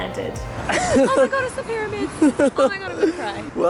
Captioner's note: laughing